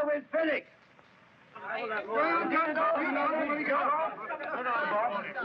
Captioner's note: miners clamoring